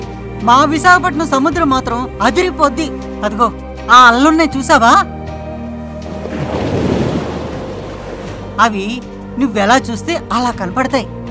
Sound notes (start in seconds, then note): 5.8 waves rumbling